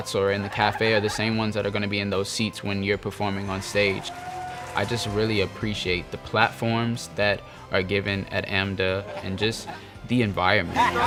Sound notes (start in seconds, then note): 3.3 audience cheers; 10.6 people laughing